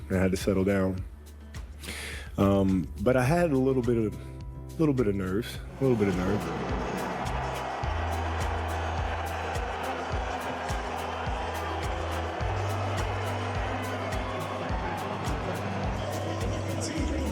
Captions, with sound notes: and I had to settle down. But I had a little bit of nerves. Little bit of nerves. (crowd cheering)